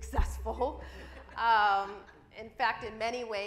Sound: audience laughs

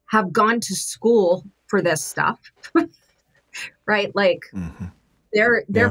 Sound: chuckles

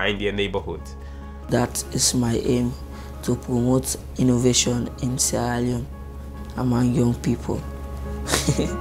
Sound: laughs

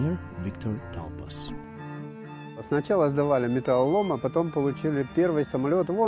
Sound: RUSSIAN with English subtitles

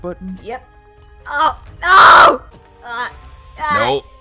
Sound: yells

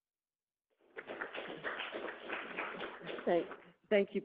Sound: audience clapping

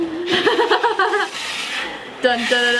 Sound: chuckles

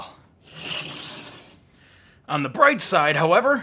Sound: hard drive brushing

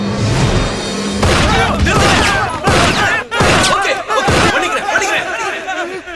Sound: gunshot

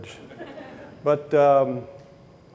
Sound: audience laughing

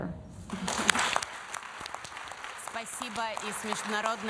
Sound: applause

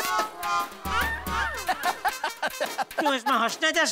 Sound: laughing

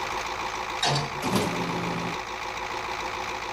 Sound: crane motor engine sounds; crane starts

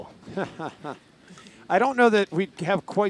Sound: laughing

